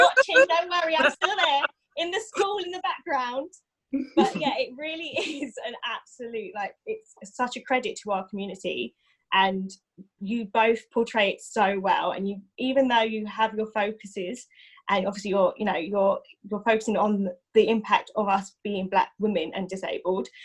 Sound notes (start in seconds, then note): 0.0 laughs; 4.1 laugh